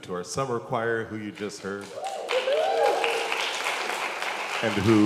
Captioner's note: congregation applauds